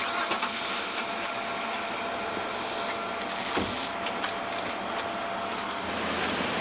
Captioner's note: engine ignition